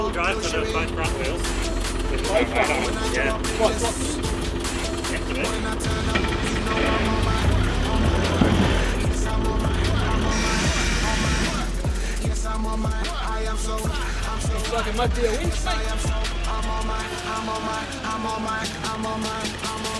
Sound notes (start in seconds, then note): 10.8 engine roaring